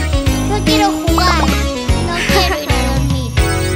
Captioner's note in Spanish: Música alegre; Risas